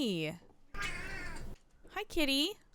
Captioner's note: cat meow